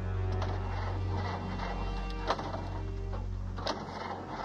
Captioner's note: engine stalling